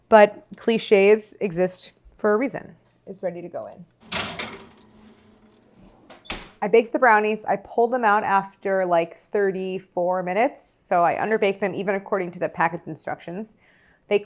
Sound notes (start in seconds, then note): 4.0 oven door shutting